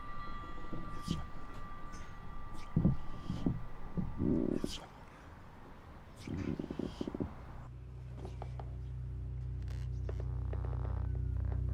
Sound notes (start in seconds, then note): 3.8 floor continues creaking